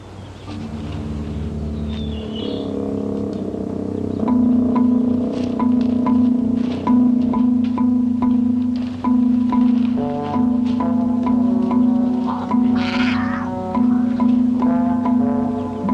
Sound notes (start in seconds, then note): 0.5 leopard growling